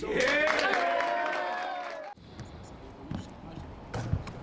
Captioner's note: team cheering